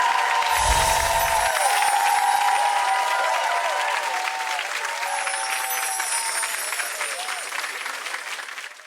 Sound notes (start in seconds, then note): 0.0 audience cheering and applauding; 5.0 chiming